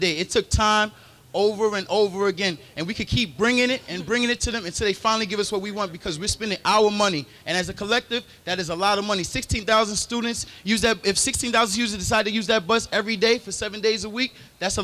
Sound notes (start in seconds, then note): none